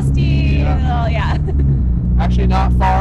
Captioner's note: laughing